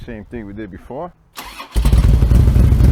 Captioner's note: engine starts; engine idles, deep exhaust note